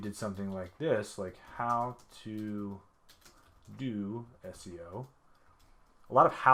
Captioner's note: keyboard typing